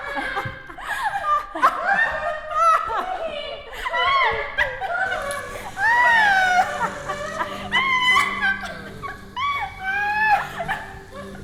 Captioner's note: laughing continues as the performers leave the room